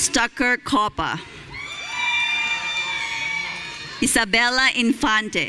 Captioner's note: audience cheering